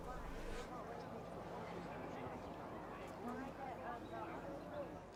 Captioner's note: crowds muttering